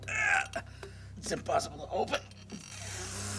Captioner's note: grunting